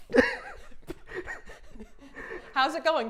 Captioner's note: Safiya laughing quietly